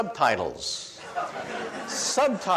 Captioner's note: audience laughs